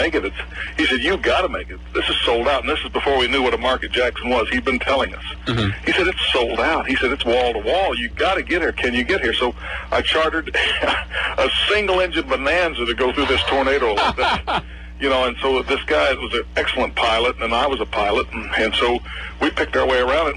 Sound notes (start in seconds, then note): 13.0 plane; 13.1 laughs